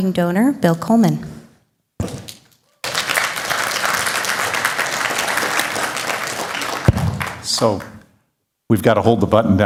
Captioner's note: applause